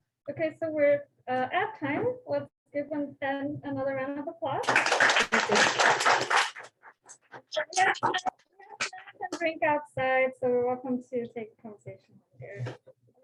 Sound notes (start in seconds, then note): 4.6 applause